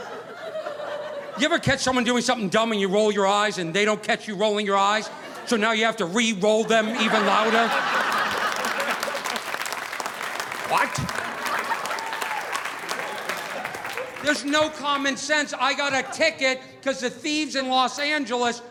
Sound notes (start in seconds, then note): 7.0 audience applauding; 7.7 audience laughing